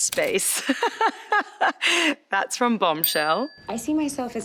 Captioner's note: laughs